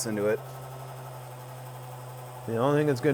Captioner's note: machine hums